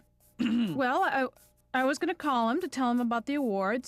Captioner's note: clears throat